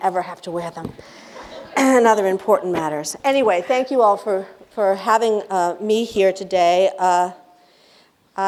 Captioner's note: laughter